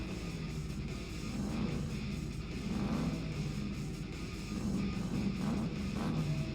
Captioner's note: motor revs